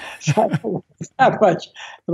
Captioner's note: laughing